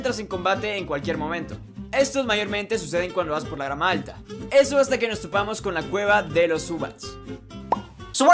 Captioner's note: Spanish